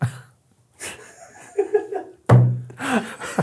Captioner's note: pair laughs